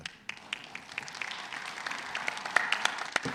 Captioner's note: audience applauding